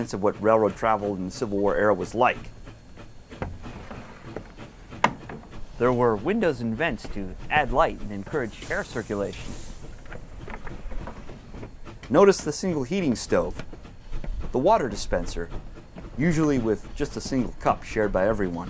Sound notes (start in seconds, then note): 2.6 steam engine chugging; 2.6 window opening; 9.0 steam engine chugging